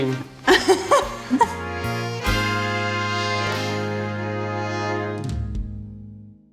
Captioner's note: bright music; Rosie laughs